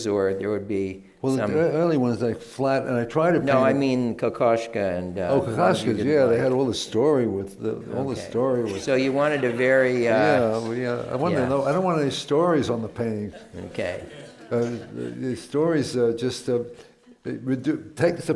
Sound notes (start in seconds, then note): 9.0 laughter